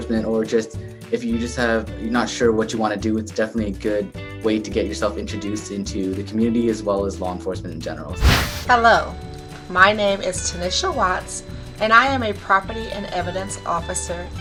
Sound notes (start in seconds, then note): 8.2 wind whooshes